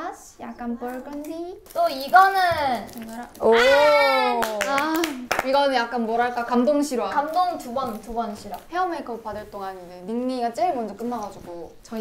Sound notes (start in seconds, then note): 1.6 rustle